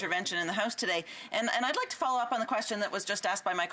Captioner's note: off mic